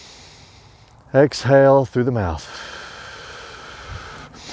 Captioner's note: exhales loudly